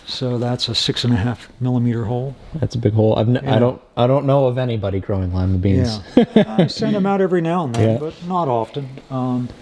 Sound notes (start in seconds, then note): 6.0 laughing